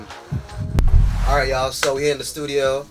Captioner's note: air whooshing